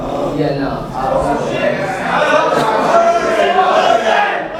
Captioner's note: audience chattering